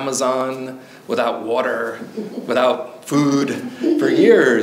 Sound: audience member chuckles

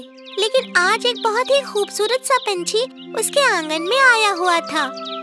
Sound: birds chirping

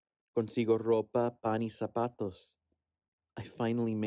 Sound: actor speaking Spanish

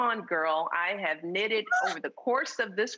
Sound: laughing

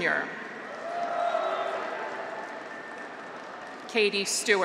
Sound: graduates cheer; audience applauds

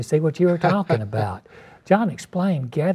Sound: laughs

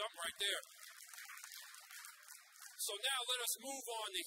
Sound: audience applauds

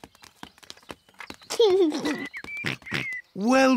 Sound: giggles

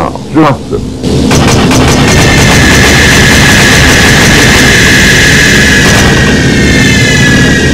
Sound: Junkers Ju-88 bomber dropping bombs

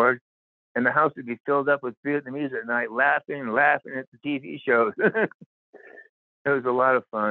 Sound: laughter

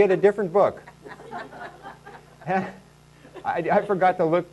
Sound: laughing

